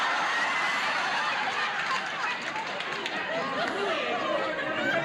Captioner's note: audience laughs